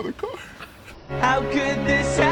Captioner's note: crying